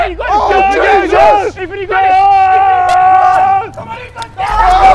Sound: men shouting

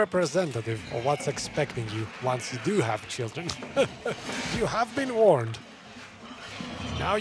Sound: laughs

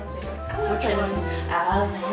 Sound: mumbles

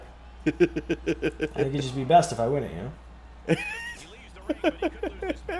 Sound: laugh; laugh

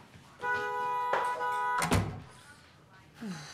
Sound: electronic phone beep; car horn blowing

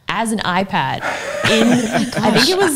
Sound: laughs

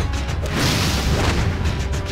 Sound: blasting

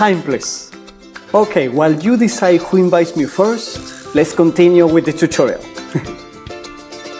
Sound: chuckles

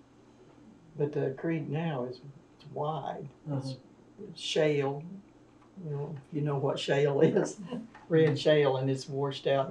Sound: laughs

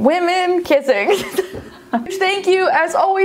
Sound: laughs

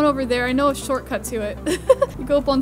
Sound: laughs

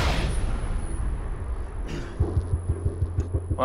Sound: clears throat

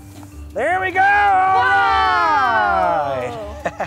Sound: yelling

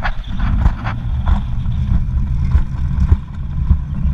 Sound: rumbling sound from the rail

